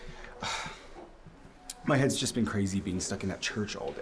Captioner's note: sighs